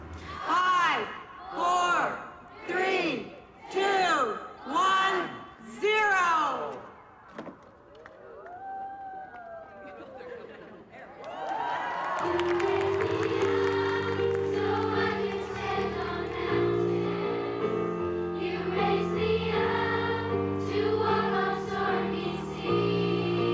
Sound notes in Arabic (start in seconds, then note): 10.2 جوقة; 10.2 هتاف